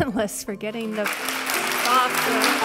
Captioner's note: applause